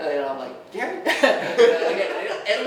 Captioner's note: laughing